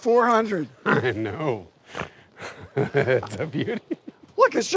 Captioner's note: trying to contain laughter